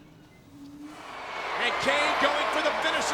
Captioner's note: audience cheering